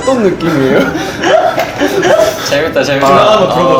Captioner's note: laughing